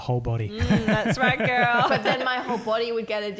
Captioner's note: laughing